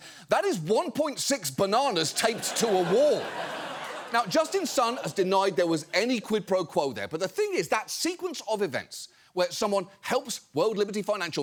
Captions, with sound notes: that is 1.6 bananas taped to a wall. (AUDIENCE LAUGHS) Now, Justin Sun has denied there was any quid pro quo there, but the thing is, that sequence of events where someone helps World Liberty Financial